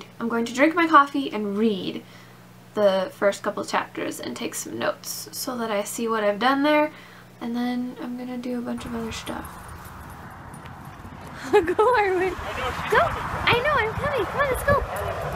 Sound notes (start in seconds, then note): 11.0 laughs